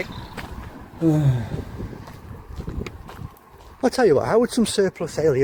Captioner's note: sigh